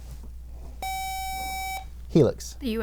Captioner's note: buzzer